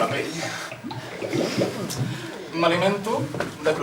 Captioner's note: bubbles sound continues